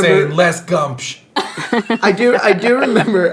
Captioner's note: laughing